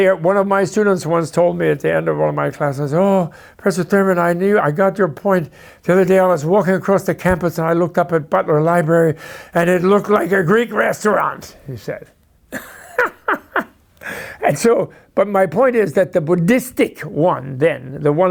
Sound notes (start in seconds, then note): 12.5 laughs